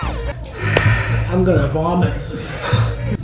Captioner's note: deep sigh